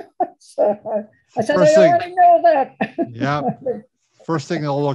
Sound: laughs; laughs

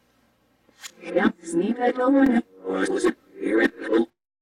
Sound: PC voices yapping backwards

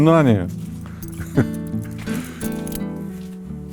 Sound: laughs

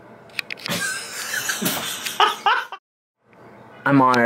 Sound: laughs

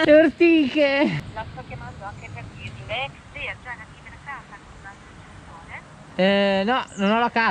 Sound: call center voice

